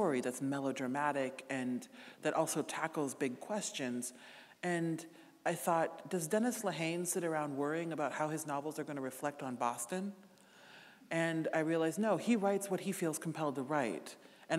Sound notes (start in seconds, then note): none